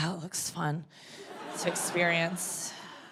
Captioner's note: audience laughing